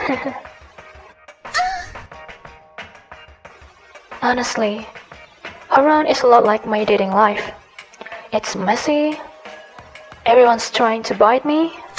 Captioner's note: giggles